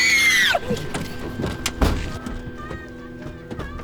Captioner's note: screams